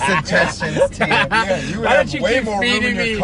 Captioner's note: laughing